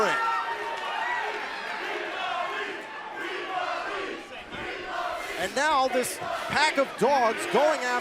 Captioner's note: crowd cheering